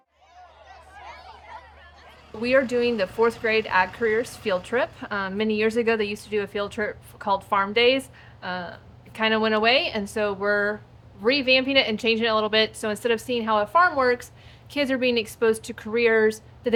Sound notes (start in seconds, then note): 0.0 indistinct chatting